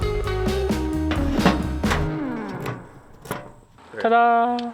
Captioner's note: upbeat music; metals clanking